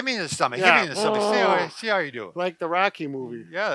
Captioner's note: grunts